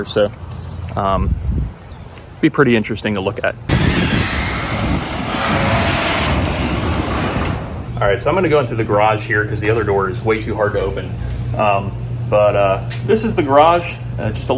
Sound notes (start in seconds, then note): 3.7 garage door squeaking